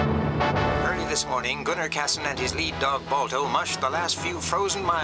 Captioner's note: man on radio